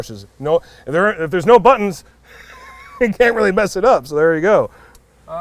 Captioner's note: laughs